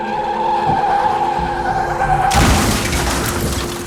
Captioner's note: tires squealing; car crashing